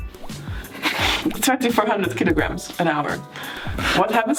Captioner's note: chuckles